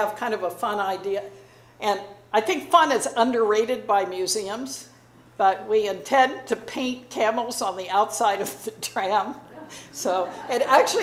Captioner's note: audience laughing